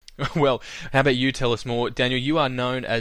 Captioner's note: laughs